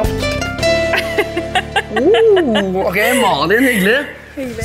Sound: she laughs

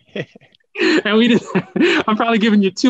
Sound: laughs

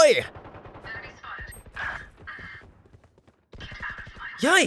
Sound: guns firing

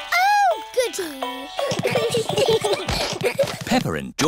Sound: all giggling

